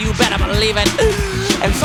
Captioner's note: deep breath